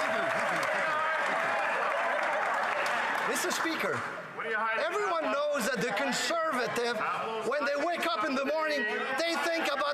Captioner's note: cheering